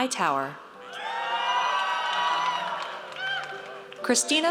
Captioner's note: audience cheers